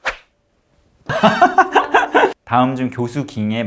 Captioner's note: laughing in embarrassment